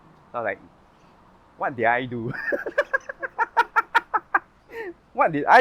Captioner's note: laughs